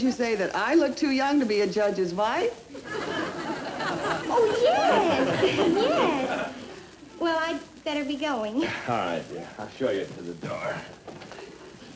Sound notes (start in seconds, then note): 5.3 crowd cheering